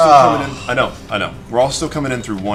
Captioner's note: groans